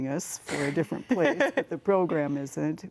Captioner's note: laughs